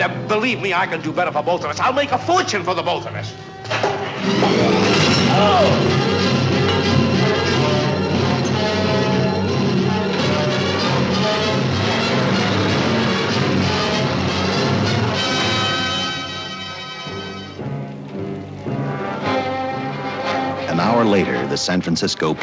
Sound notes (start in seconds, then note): 3.9 suspenseful music; 5.2 man cries out; 6.4 suspenseful music